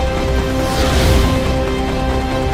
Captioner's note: jet engine roars